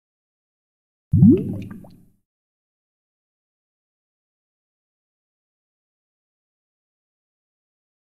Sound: sound of water bubbles

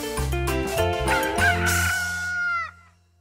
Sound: rooster crowing

